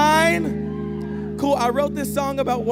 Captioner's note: audience cheering and applauding